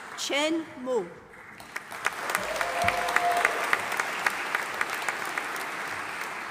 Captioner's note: audience applauding